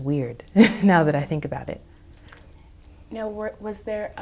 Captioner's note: laughs